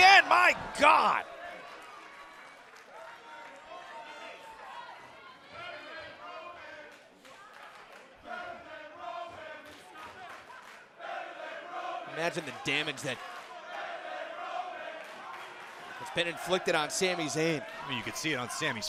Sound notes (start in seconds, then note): 6.9 fans chanting